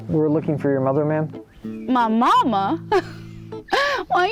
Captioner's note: laugh